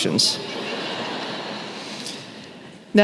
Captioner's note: laughter